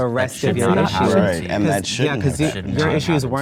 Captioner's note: excited group cross-chatter